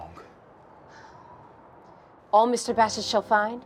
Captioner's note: sighs